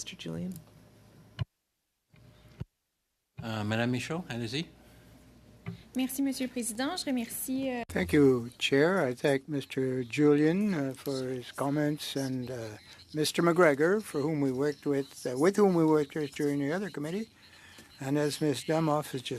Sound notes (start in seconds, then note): 10.8 speaking French